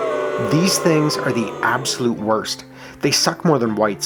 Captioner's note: crowd booing